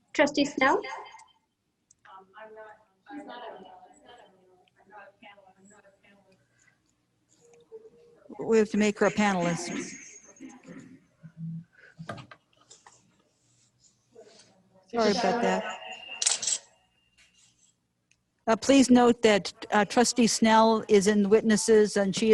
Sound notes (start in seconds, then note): 11.6 distortion